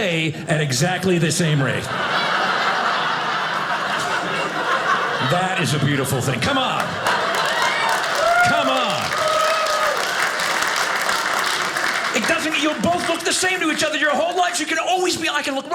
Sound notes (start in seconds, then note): 1.6 audience laughing; 9.1 audience applauding